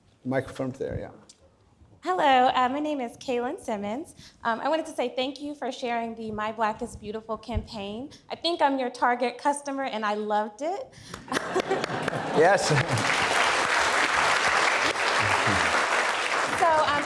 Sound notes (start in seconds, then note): 11.2 laughs; 12.5 clapping; 13.0 audience applauding